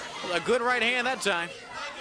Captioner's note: crowd chatter